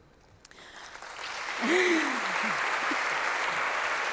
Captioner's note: applause